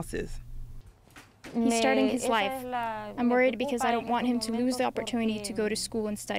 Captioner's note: through translator